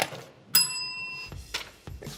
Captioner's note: bell ringing